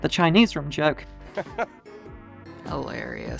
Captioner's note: laughs cutely